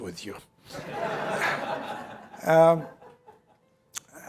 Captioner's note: laughter